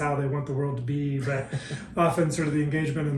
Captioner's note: laughing